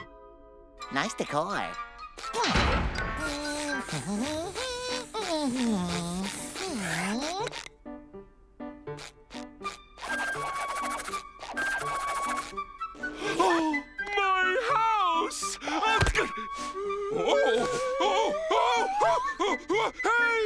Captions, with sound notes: Nice decor. Hmm. [humming] [gasping] My house! Whoa. Oh! Oh! Hey!